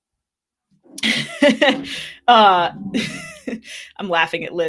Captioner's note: laughing